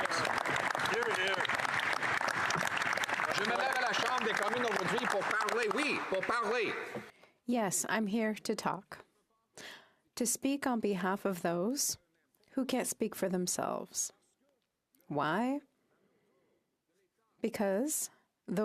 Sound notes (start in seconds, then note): 4.8 some Applause; 8.6 speaking French